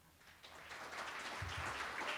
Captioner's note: applause